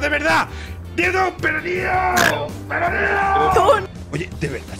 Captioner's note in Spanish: ríe como un cerdo